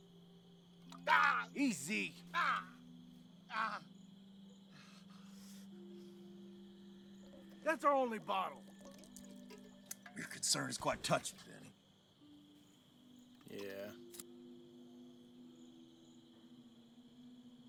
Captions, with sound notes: (Hugo hollering) - Easy! That's our only bottle. - Your concern is quite touching, Benny. - Yeah.